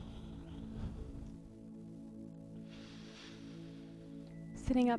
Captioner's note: breathes